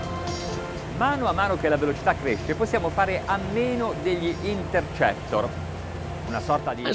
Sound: speaks Italian

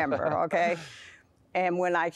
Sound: laughter

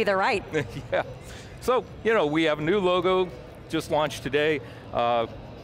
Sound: laughs

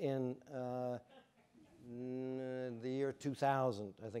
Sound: audience chuckling

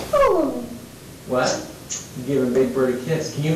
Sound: babbles

